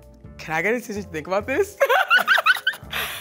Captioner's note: laughs